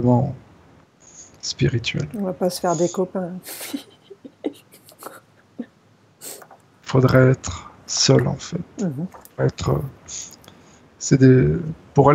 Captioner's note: laughs